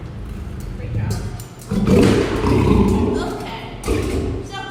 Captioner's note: lion growls